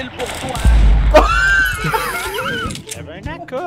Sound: laughs

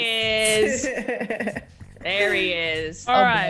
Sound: laugh

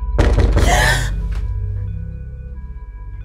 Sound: gasp

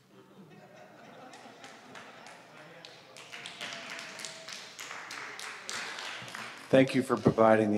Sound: laughter and clapping

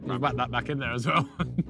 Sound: laughs

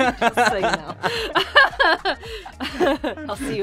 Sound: laughing

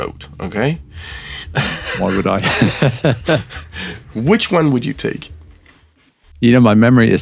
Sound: laughs

